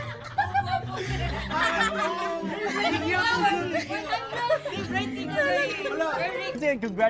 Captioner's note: laughs; overlapping chatter, laughter